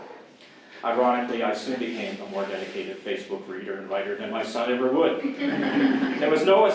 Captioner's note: audience laughs